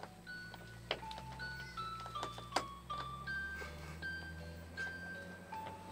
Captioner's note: laughs